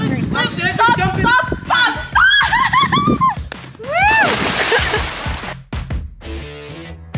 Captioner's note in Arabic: يضحك